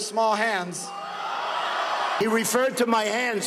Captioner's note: crowd cheering